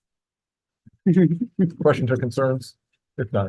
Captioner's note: laughs